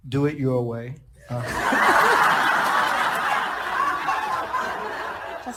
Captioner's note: audience laughing